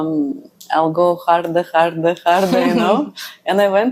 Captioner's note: laughs